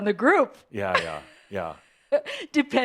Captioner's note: she chuckles